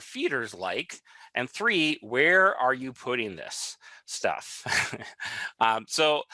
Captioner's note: laughs